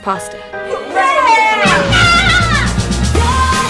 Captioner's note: cheering